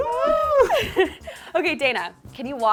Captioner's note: laughing